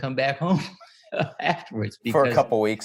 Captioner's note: chuckles